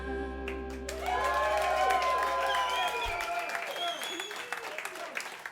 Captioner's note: cheers and applause